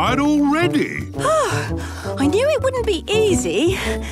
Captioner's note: panting